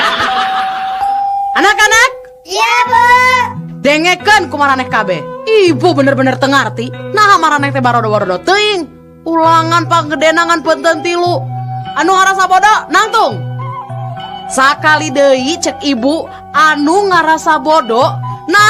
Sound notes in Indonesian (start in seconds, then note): 2.6 berteriak